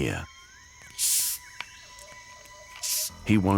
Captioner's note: hissing